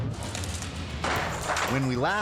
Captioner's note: dot whooshing; logo swooshing; lively music; sledgehammer pounding